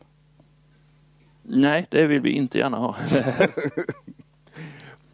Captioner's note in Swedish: skrattar